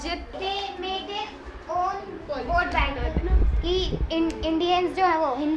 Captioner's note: speaks in foreign language